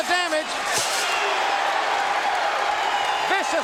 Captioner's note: audience cheering